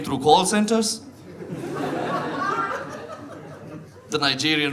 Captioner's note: audience laughs